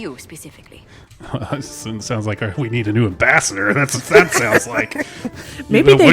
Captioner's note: laughs